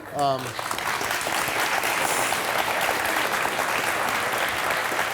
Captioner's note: audience applauding